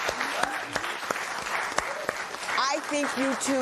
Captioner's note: applause